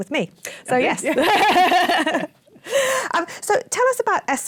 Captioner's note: laughter